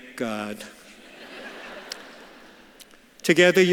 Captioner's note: audience laughs